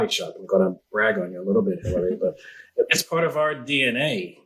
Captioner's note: murmurs